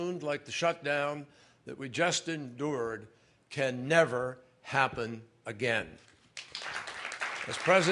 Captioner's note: applause